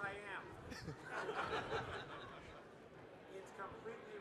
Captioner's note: participants laughing